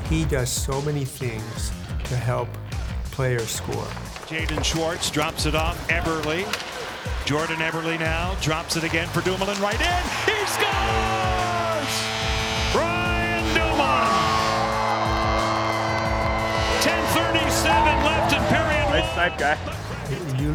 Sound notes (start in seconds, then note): 11.4 fans cheering; 11.4 horn blasting; 15.0 fans cheering